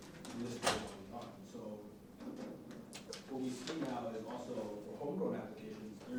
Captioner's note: door closing